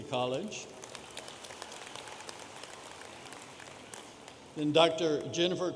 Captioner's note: audience applauding